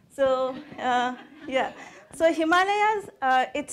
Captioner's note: audience laughing